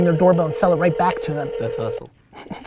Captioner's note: phone ringing; Gary laughs